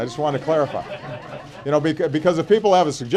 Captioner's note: laughter